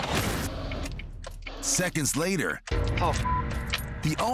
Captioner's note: beep